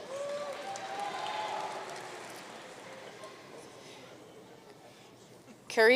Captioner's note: audience cheering and applauding